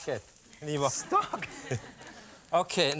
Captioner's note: laughing